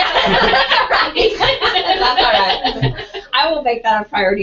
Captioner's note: laugh